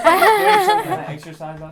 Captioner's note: all laugh